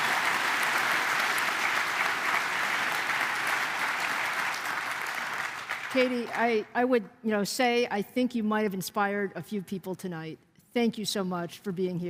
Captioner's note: applause